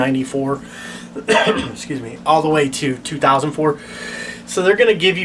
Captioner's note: cough